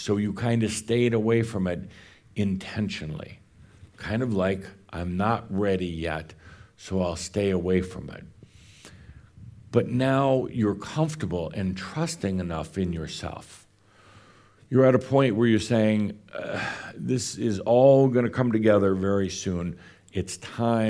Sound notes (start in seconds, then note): none